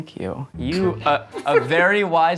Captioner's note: laughing